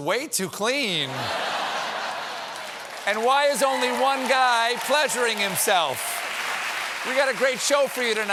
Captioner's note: laughter